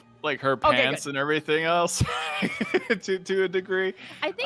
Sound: laughs

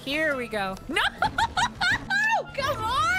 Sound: laughing

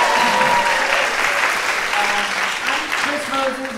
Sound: audience cheering; audience clapping

